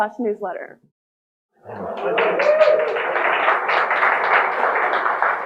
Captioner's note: audience applauding